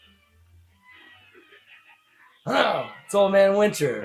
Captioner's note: maniacal laugh